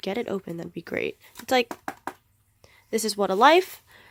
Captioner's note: knock knock